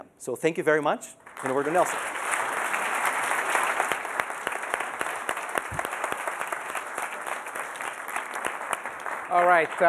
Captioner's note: applause